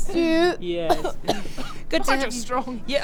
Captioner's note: cough splutter cough